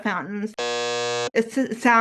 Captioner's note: buzzer sound